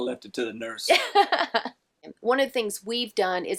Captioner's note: laughing